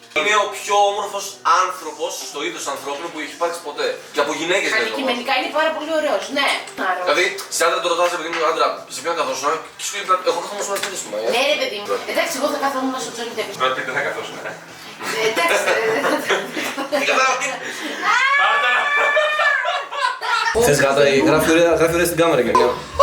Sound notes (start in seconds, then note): 15.2 confused screaming